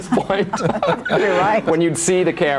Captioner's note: all laughing